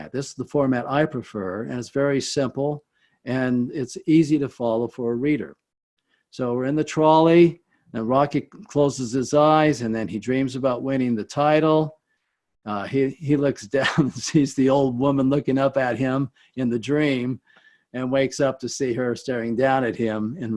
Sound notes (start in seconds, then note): 13.7 chuckles